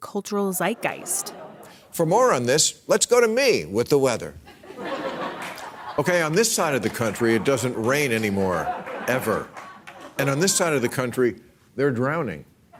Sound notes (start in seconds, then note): 4.4 laughter